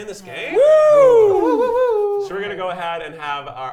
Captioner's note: contestants wooing